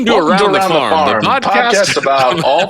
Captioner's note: laughing